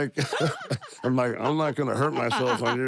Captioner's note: laugh